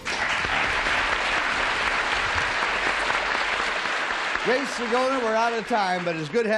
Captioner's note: applause